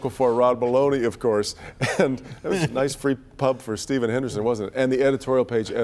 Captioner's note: laughter